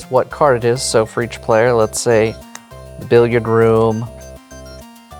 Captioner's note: card slaps